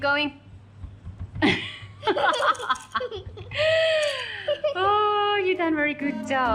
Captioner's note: both laughing, having fun